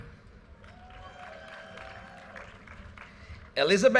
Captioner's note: audience cheers and applause